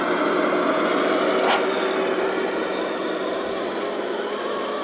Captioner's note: truck engine roaring